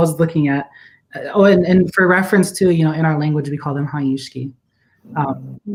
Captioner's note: speaking Dakota